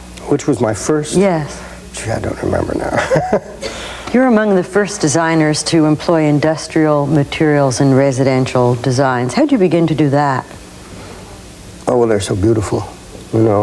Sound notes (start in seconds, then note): 2.6 laughing